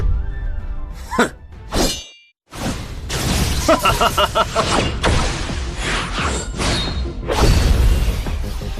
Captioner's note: mocking laugh